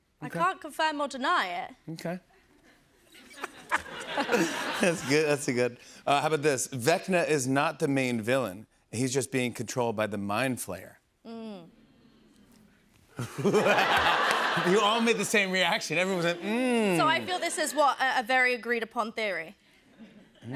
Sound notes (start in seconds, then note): 3.1 laughter; 11.4 audience "mms"; 13.2 laughter